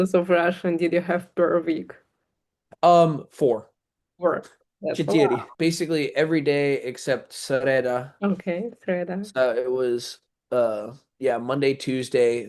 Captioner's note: russian